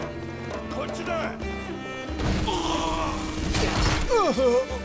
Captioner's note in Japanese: うめき声